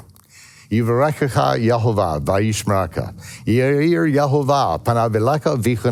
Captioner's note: speaks in Hebrew